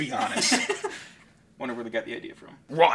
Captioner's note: laughing